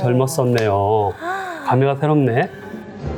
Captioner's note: gasps